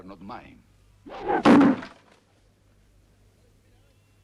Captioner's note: knife thuds